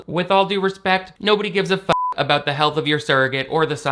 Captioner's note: beep